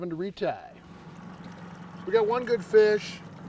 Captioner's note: boat enging running